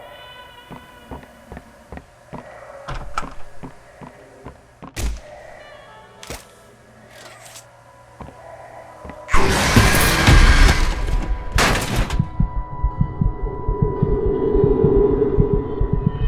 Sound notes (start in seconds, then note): 1.1 footsteps; 4.4 gunshot; 9.3 gunshots; 11.8 gunshot; 12.2 heartbeat